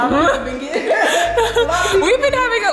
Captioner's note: laughing